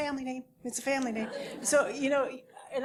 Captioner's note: laugh